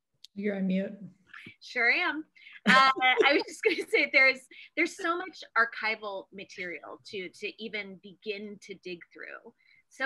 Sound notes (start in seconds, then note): 2.6 laughs